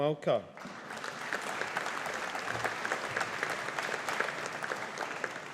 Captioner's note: audience applauding